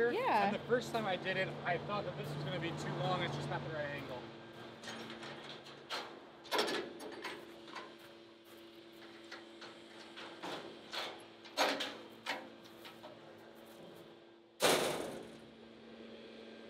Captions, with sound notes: And the first time I did it, I thought that this was gonna be too long. It's just not the right angle. (metal clanking)